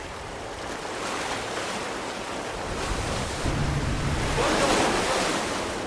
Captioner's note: waves crashing